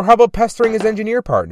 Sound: tap-tap

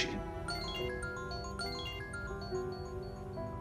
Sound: mobile ringing

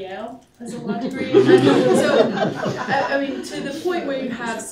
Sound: laughter

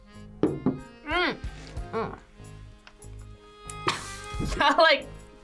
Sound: coughs

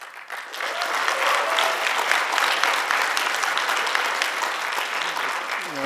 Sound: applause

